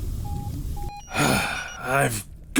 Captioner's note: sigh